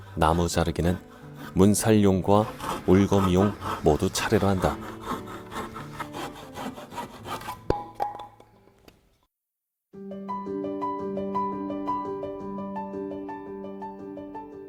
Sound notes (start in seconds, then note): 4.0 sawing sound